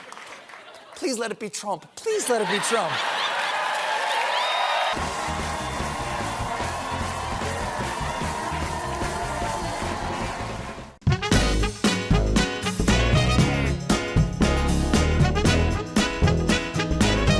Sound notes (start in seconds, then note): 3.8 cheers and applause; 3.8 laughter